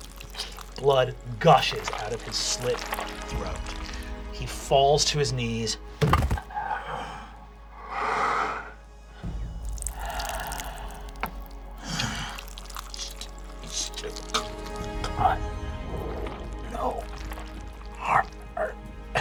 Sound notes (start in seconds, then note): 14.8 gurgles